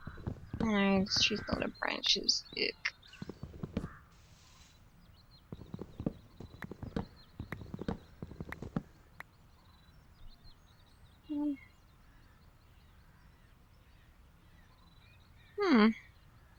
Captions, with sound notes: Urgh. This tree's got a lot of branches. Erk. [wood punching noises] Hmmm!